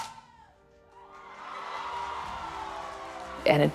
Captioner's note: applause